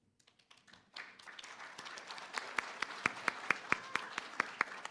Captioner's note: applause